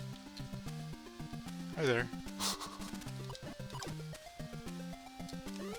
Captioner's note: laughs